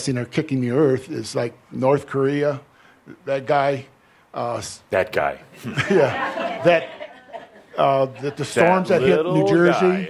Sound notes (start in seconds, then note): 5.6 some chuckles